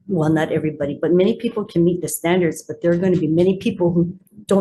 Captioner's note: none